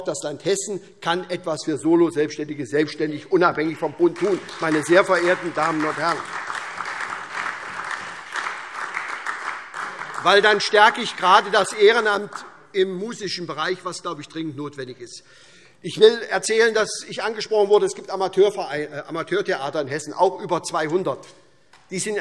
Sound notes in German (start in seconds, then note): 6.7 Beifall SPD und Freie Demokraten